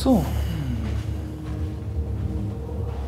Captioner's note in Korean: 고민하는 숨소리